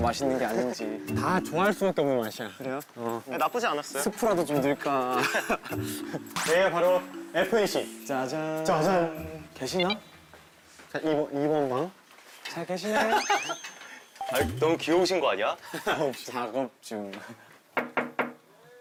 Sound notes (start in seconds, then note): 13.0 already burst out laughing; 17.8 knock knock knock